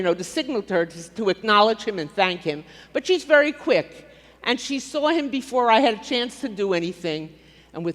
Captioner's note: none